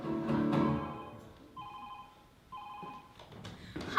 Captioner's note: phone ringing